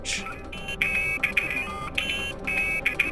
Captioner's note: c-gal beeps